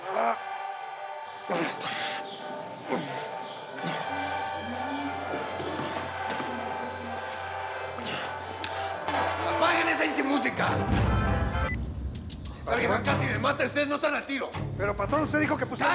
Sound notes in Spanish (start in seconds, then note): 3.7 quejidos